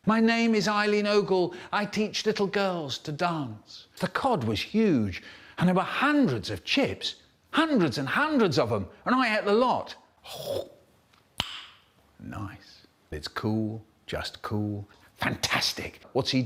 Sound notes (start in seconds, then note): 11.3 snap